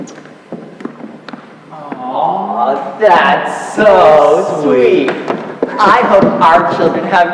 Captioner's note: snickering